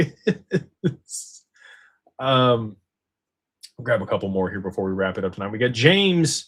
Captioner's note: laughter